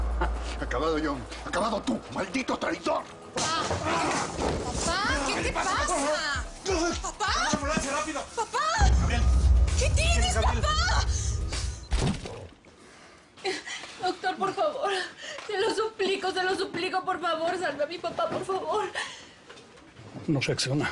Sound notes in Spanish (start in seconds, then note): 3.9 Ruido al caer; 6.7 Balbuceos de él; 20.2 Solloza